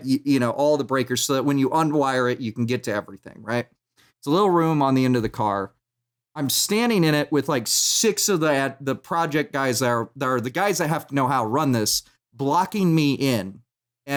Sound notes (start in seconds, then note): none